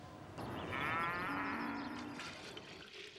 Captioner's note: cow moos